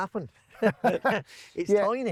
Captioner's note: laughing